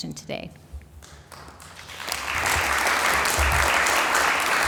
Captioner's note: applause